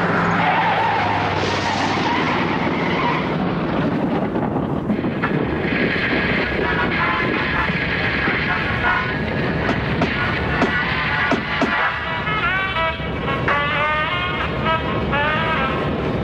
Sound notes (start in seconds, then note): 0.2 tires screeching; 3.3 thunder; 6.6 static on radio; 12.8 jazz music playing